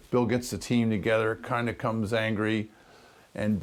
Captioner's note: none